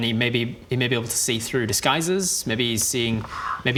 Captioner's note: none